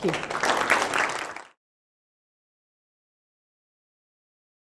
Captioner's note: applause